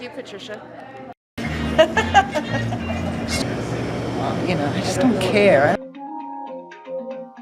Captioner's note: laughing